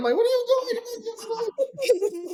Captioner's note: laughing